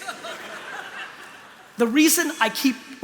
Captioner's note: laughter